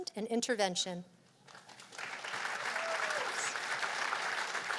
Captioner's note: cheers and applause